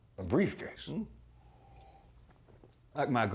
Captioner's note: slurping